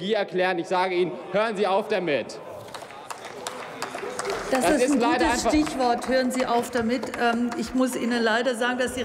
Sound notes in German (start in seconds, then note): 2.6 Applaus, Zwischenrufe